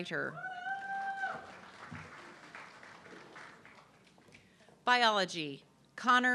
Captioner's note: audience clapping and cheering